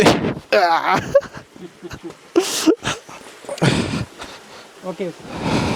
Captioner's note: laugh